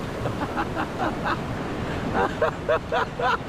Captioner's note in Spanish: risas